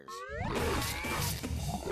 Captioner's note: growling